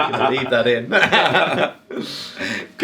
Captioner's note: both laughing